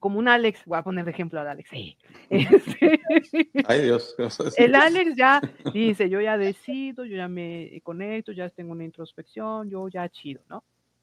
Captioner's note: laughs